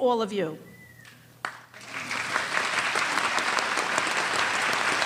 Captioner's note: large applause